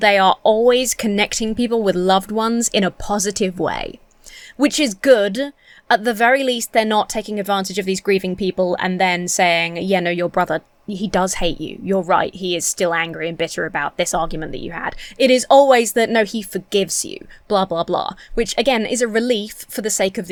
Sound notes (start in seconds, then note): none